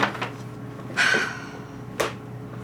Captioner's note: sighs